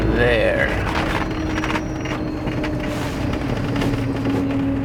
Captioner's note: vehicle rattling